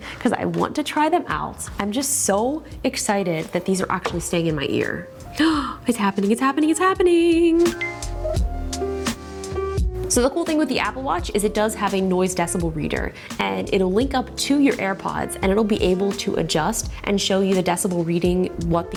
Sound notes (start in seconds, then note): 5.3 gasps; 8.0 phone beeps